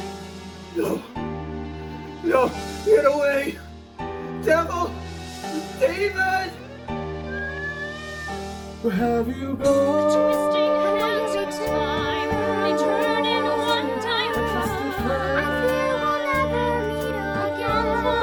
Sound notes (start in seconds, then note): 6.9 handsome cat meows